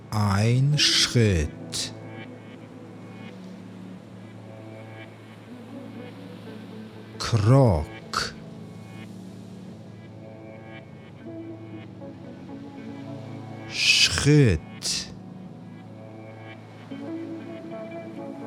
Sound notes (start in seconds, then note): 1.7 german; 14.8 german